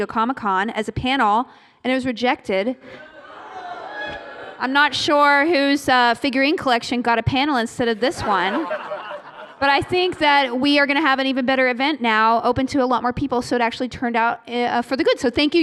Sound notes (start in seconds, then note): 3.3 booing; 8.0 laughter